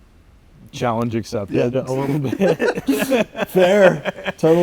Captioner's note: both laughing